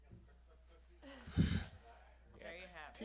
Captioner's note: laughter